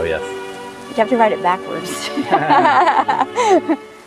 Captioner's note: laughter